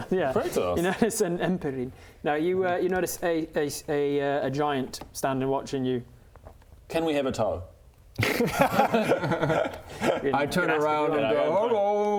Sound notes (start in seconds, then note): 8.2 bold laugh